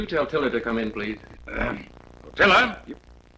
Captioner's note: clears throat